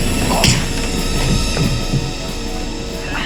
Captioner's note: smacks